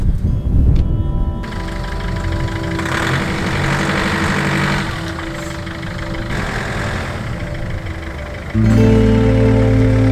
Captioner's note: engine is starting